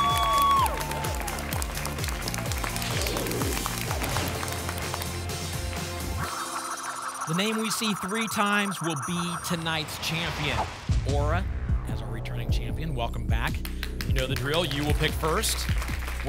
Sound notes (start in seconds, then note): 2.7 whoosh; 6.1 spinning sounds